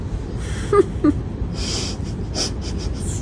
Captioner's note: chuckle